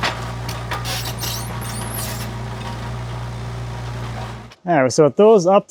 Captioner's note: wood clunking; forklift squeaking